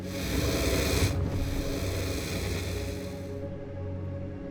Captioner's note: dragon growls